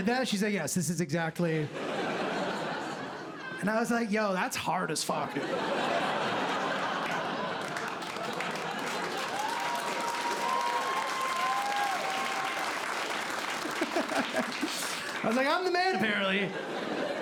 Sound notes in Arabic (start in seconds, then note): 5.3 ضحك; 9.3 هتاف وتصفيق; 13.6 ضحكة مكتومة